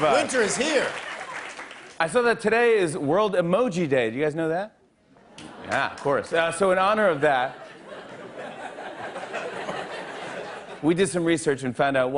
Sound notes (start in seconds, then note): 7.1 laughter